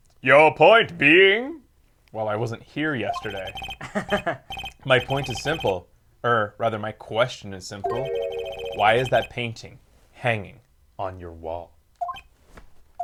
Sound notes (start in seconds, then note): 3.8 laughs